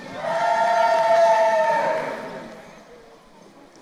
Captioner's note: crowd cheering